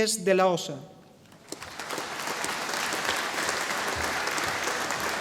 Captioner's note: audience applauding